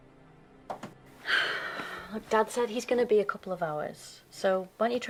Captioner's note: sighs